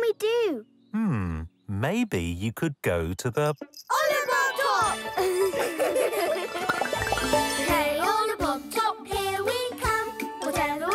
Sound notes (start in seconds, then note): 5.2 laughing